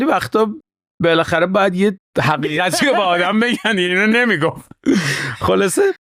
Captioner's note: laughs